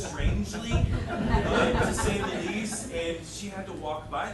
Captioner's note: audience laughing